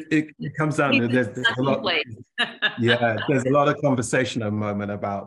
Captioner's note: laughter